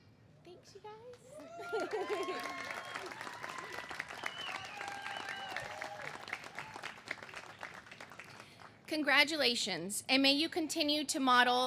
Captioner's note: cheers and applause